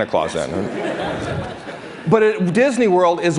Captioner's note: laughter